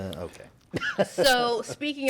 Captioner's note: laughter